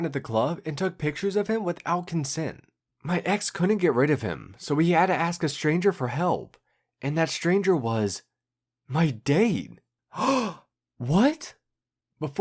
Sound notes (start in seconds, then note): 10.1 gasp!